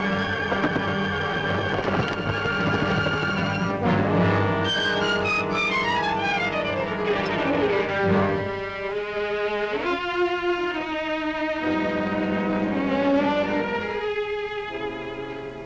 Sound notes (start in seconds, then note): 0.1 wings flapping